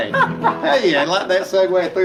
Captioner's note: laughing